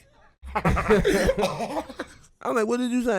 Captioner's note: laughing